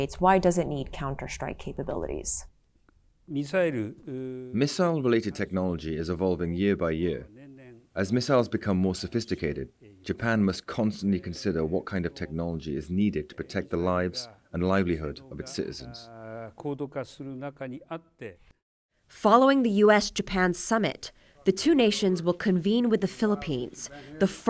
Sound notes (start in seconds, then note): 4.9 through translator